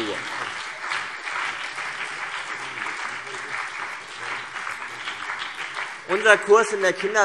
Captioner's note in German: Beifall CDU und BÜNDNIS 90/DIE GRÜNEN